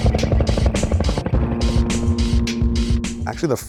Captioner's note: helicopter whirring; exciting music